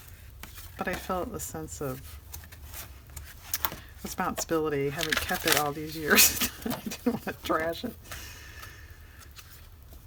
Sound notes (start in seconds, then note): 6.2 laughs